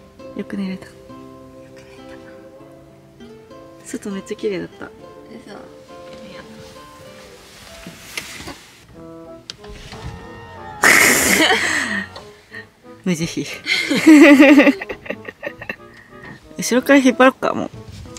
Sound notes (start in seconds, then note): 9.5 sound of door closing; 13.6 laughs